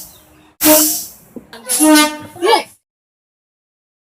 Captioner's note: air Horn